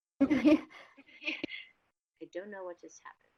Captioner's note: women giggle